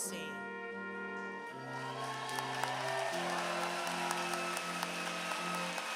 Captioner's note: applause